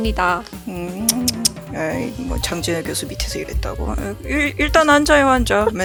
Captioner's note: laugh